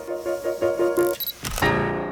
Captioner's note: piano music ends; buffer whirring; camera clicks